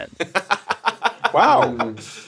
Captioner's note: laughing